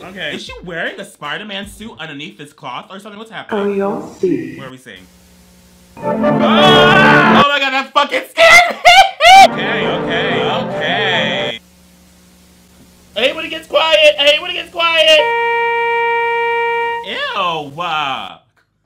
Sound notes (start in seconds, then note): 6.0 tense trumpet music; 6.3 screams